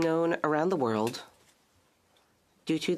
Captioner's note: speaking French